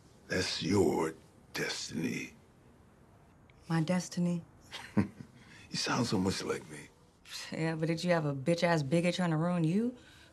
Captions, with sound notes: That's your destiny. -My destiny? -[Mr. Rose chuckles] You sound so much like me. Yeah, but did you have a bitch ass bigot trying to ruin you?